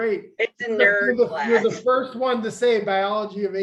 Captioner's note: laughter